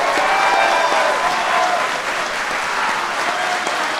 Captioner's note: applause